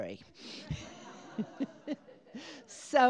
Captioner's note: laughter